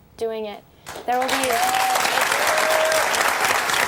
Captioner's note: applause